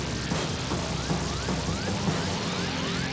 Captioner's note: siren blaring